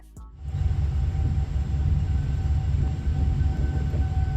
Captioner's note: tornado roaring